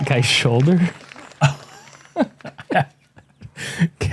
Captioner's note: laughter